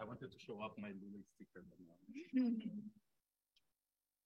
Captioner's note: speaks faintly; attendees chuckling